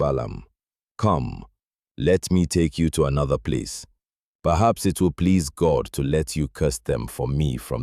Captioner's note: thoughtful